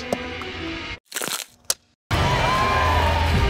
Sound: crunching; elves cheering

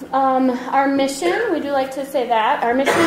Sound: voiceover

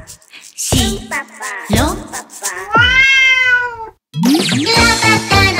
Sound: meow !!

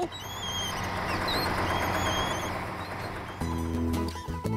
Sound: engines Running

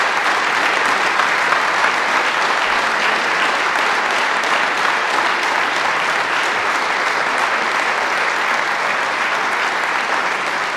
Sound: applause

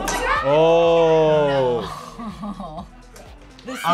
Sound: laughs

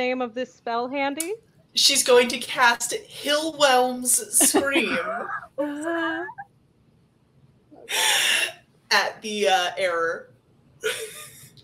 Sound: laughs

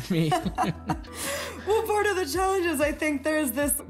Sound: laughing

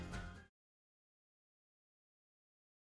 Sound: silence

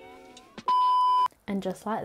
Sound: screen beeping

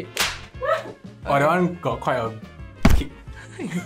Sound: slap

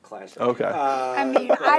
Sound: laughs

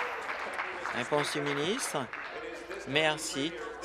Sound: applause

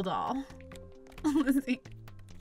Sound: laughs

